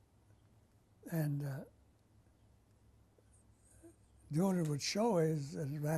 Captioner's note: pauses for 3 seconds